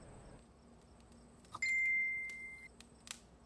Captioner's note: phone rings